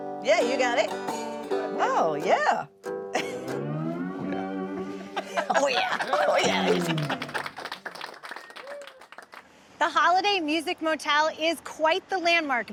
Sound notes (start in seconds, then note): 3.0 blue music; 4.8 laughing; 6.0 audience cheering